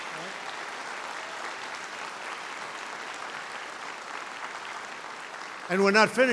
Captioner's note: applause